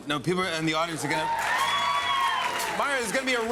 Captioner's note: cheers and applause